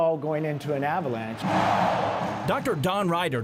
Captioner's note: crowd